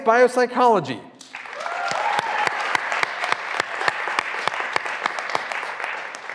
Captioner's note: graduands cheering and applauding